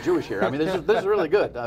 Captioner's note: laughter